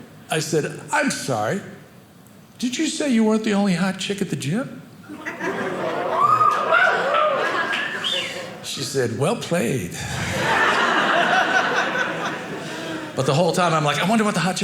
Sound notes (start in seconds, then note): 5.4 audience cheering; 10.1 audience laughing